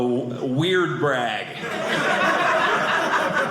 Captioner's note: audience laughing